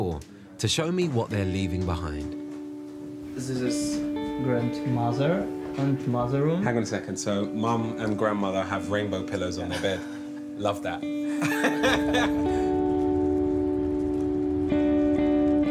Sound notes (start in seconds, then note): 11.2 laughing; 13.0 gentle music